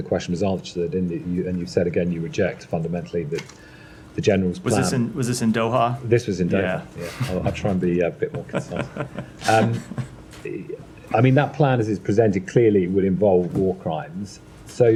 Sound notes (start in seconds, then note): 8.1 laughter